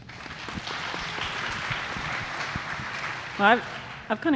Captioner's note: audience applauding